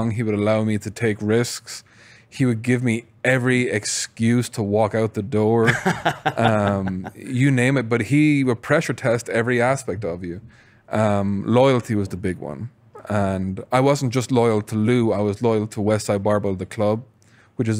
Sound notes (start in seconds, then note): 5.6 laughs